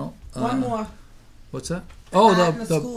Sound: voiceover

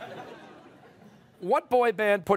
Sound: laughter

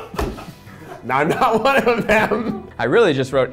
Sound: laughs

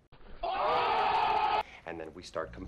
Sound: people go OOOOHHH

